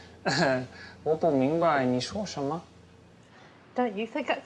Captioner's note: speaking Chinese